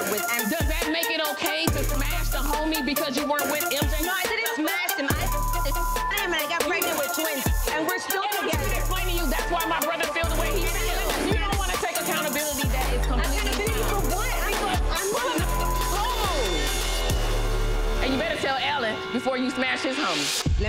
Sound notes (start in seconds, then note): 5.5 beep; 15.5 beep